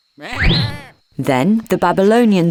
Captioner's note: sheep bleating